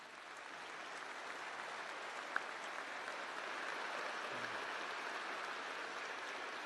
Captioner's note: applause